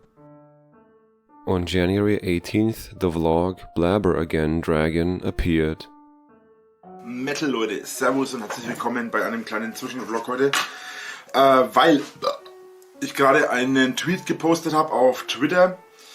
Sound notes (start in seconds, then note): 12.2 burps